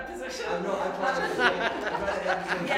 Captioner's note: laughter